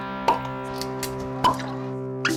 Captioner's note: cork pops